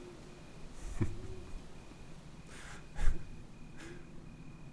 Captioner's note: low chuckle